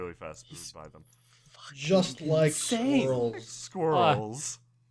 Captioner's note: quietly